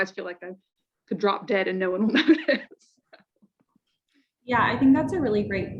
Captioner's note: chuckles